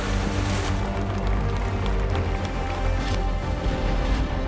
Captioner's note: audience applauding